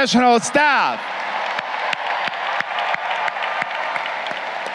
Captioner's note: crowd cheering